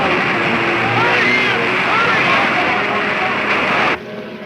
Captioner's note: men shouting; rushing water; rain pouring